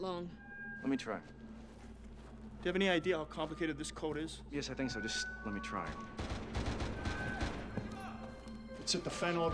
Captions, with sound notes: LET ME TRY. DO YOU HAVE ANY IDEA HOW COMPLICATED THIS CODE IS? YES, I THINK SO. JUST LET ME TRY. [GUNSHOTS, SHOUTING] IT'S HIT THE FAN ALREADY.